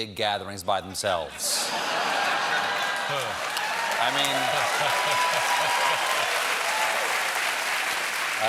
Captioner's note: laughter; cheers and applause